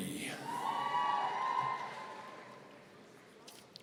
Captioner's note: audience cheering